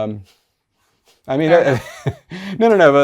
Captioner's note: laughs